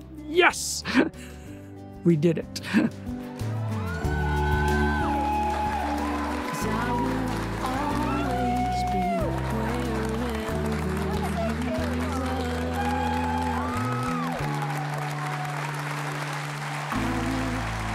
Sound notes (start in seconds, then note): 4.2 loud cheers & applause; 14.2 loud cheers & applause